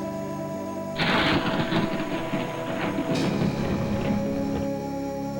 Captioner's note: lightning cracks